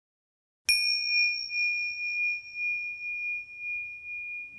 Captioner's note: bell ringing